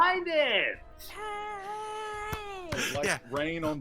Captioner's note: group mimics cheering